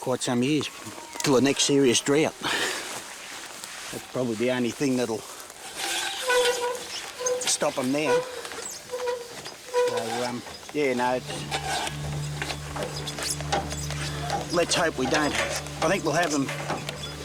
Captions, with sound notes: for quite some years, till the next serious drought. [chuckles] That's probably the only thing that'll... -[handle squeaking] -[hose rasping] ...stop 'em now. And, um... yeah... Let's hope we don't... I think we'll have them...